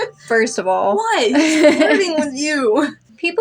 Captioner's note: laugh